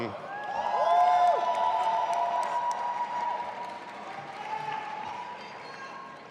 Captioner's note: audience applauding and cheering